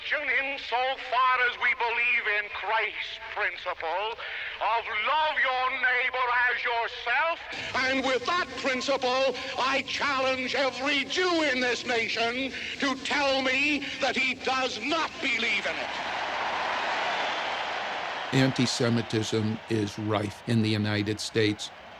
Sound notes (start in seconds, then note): 17.0 cheers and applause